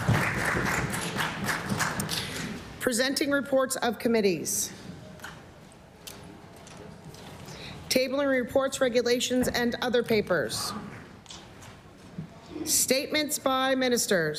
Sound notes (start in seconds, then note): 2.0 applause